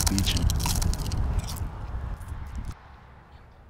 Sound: crunching

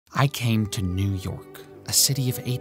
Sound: voiceover

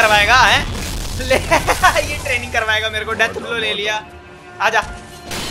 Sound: weird laugh

